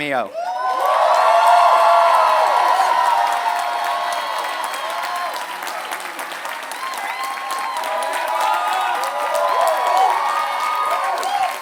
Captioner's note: applause